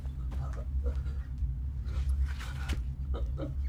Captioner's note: breathing loudly; man granting